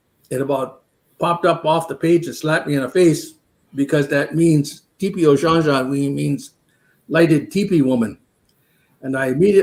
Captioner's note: speaking Dakota